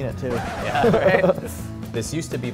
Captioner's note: scratch sound effect